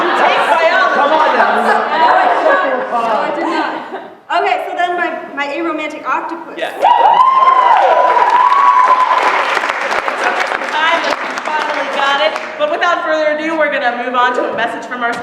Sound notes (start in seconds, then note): 6.7 cheering; 7.4 applause